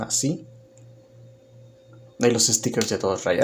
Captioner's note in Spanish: Silencio